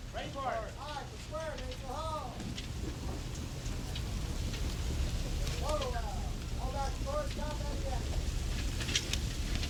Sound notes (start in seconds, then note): 6.7 wind blowing